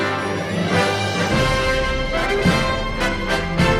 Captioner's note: Aplausos